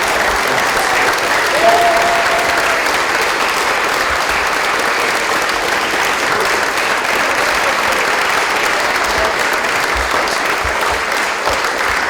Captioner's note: applause